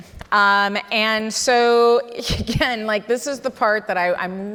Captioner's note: chuckles